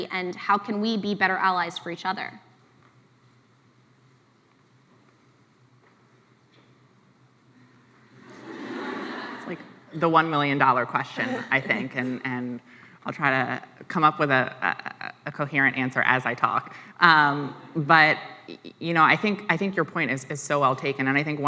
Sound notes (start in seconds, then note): 8.2 laughs